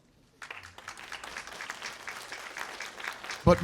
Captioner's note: applause